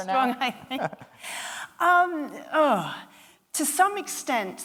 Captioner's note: chuckling